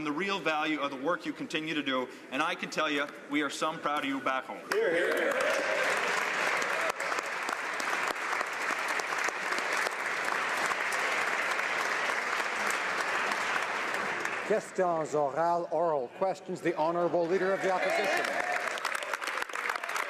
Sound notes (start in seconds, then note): 10.4 applause